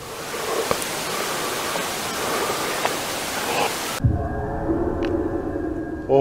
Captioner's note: barely audible footsteps - increased audio